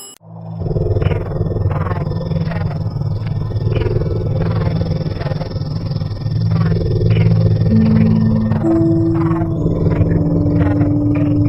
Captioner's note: ringing